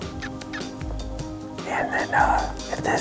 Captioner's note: imitation squawking